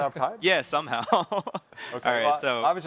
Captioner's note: chuckles